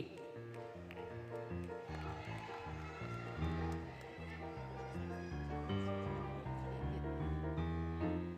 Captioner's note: applause, Cheering, Music